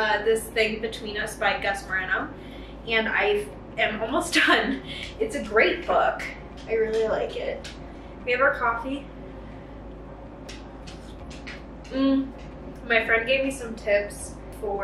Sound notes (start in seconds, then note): 10.5 sipping; 10.5 Benji walking